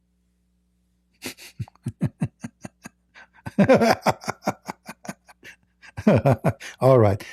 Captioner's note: Ketawa